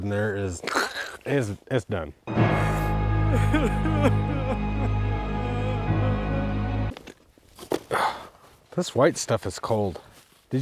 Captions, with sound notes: in there is-- (crackles voice) It's done. (dramatic music) (person crying) This white stuff is cold.